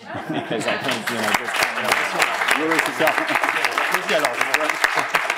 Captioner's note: applause